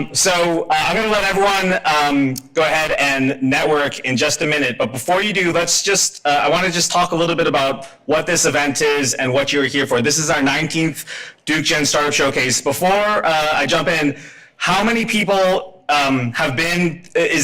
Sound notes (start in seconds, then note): none